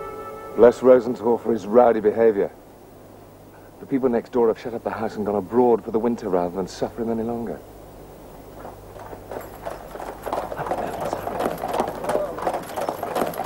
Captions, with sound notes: Bless Rosenthall for his rowdy behaviour. The people next door have shut up the house and gone abroad, rather than suffer him any longer. - (Carriage approaching) - (Whispers) What's happening?